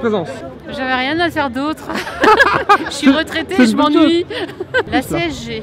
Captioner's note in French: rires